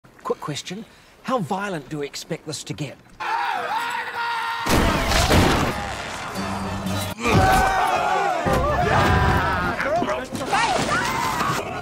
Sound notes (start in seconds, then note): 7.3 yelling